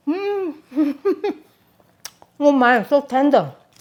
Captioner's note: chuckling